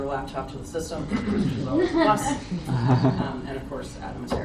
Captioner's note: audience laughs